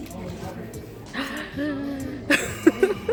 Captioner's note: gasp